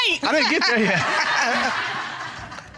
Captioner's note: audience laughing; chuckles